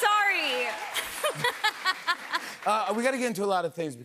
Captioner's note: laughs